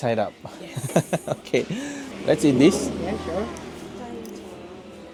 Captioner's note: laugh